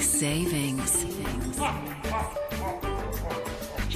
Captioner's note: laughs